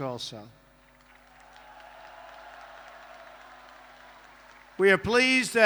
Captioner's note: applause